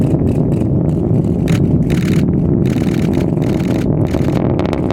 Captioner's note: explosion; cameras clicking